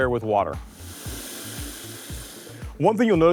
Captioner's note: water gushing